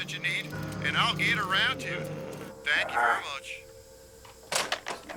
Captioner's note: groaning